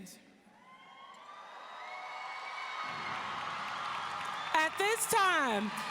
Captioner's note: audience cheering